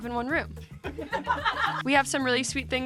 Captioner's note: cast members laugh